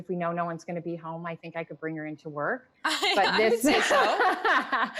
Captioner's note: laughing